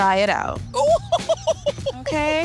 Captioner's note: laughing